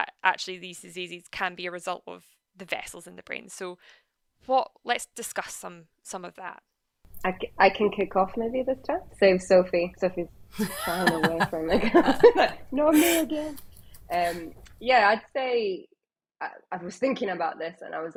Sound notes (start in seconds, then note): 10.5 laughs